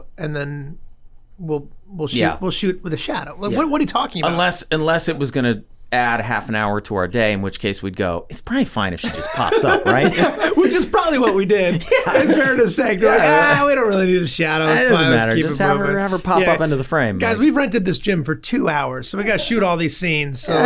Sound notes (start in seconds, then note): 9.0 both chuckling; 13.6 exclaims